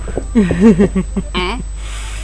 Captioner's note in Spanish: risas